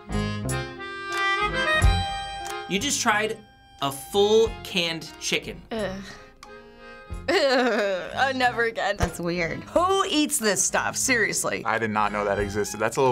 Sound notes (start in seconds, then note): 6.3 shuddering groan